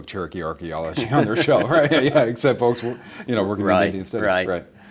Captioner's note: both laugh